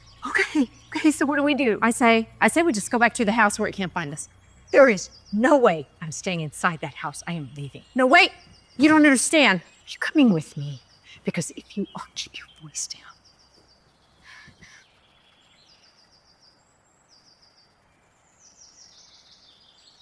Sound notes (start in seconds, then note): 15.8 birds chirping